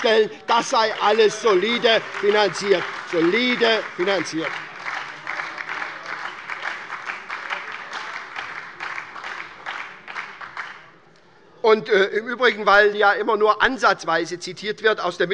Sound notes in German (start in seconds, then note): 3.0 Beifall bei der SPD